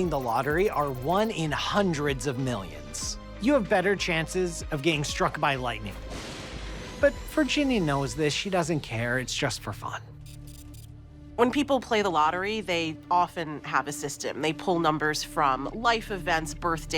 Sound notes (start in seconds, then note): 5.9 thunder cracking